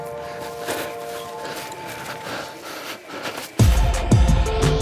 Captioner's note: panting heavily; upbeat music